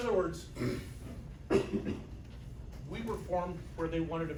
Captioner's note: clears throat; audience member coughs